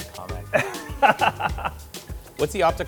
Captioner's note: laughing